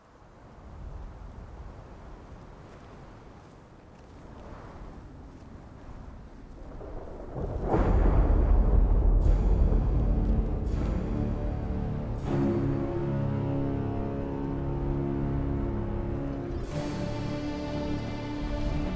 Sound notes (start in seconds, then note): 6.6 thunder rolling; 9.9 dramatic music